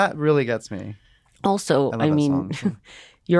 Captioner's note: chuckles